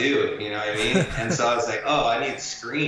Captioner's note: chuckles